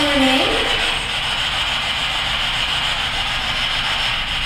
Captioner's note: static buzzing